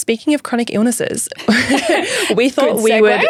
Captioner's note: both laughing